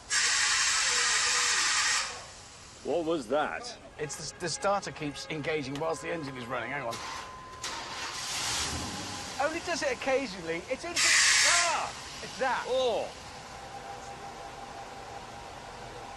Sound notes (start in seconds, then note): 7.6 engine starts; 11.0 starter motor whines; 13.5 engine idling